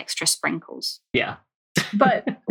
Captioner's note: laughs